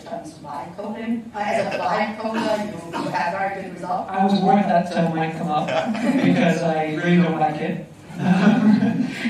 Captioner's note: laughter